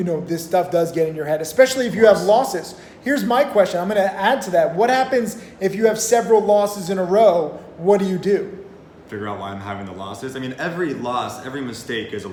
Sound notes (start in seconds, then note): none